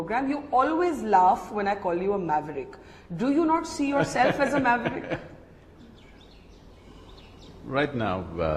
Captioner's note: Sadhguru laughs